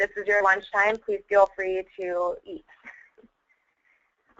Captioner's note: laugh